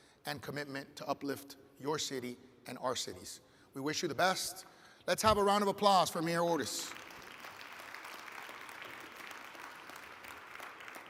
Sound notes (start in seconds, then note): 6.8 audience applauds